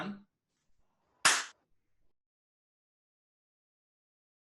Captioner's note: clapping